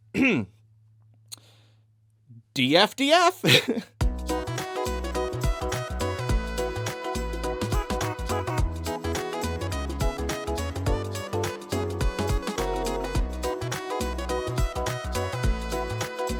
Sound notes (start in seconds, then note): 7.1 laugh